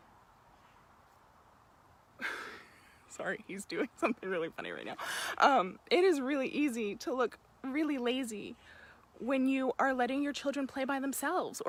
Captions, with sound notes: (laughs) Sorry, he's doing something really funny right now. It is really easy to look really lazy when you are letting your children play by themselves